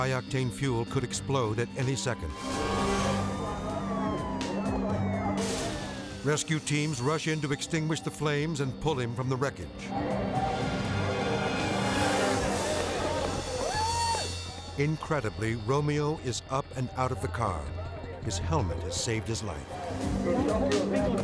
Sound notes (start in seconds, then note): 1.8 siren blaring; 4.1 radio Announcer; 9.9 crowd chattering